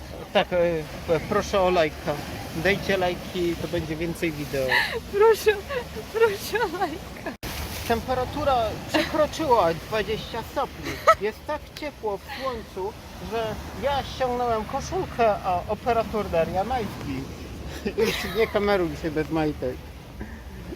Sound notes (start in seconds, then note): 4.6 laughing